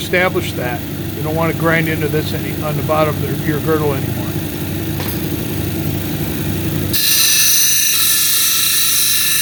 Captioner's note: grinding cabochon